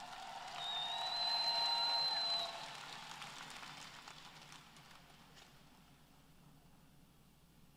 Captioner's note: applause